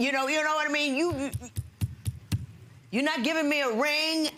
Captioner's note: pounding